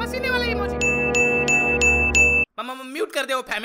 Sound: message sound

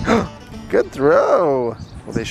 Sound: gasps

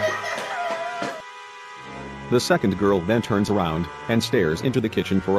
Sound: steps

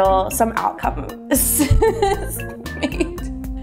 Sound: laughter

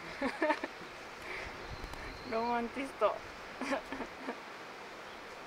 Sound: laughs

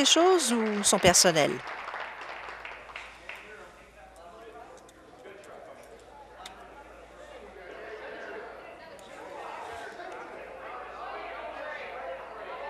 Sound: applause

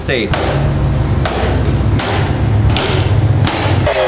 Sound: crowbar banging

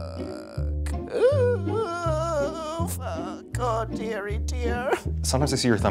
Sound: whimpering

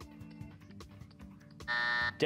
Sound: buzzer

